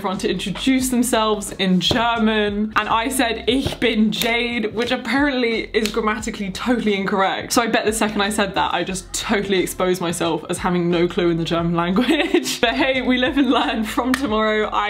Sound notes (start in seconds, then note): 3.1 speaking in foreign language